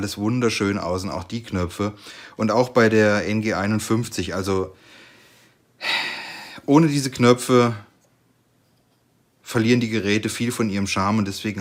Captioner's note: sigh